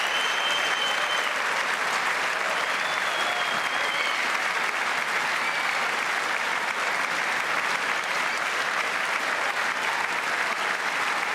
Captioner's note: cheers and applause